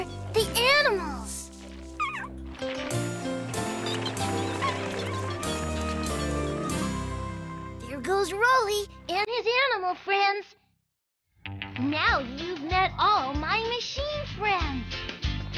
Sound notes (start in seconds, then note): 1.9 animals Squeak & Chatter; 2.8 engine Revs